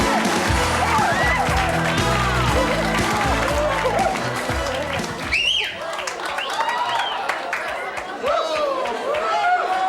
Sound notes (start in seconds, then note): 5.7 audience cheers